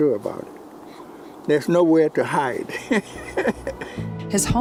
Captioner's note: laughs